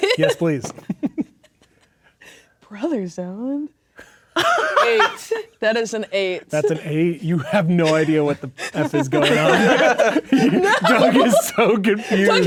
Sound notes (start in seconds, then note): 4.4 laughs; 9.9 players laughing; 11.1 laughing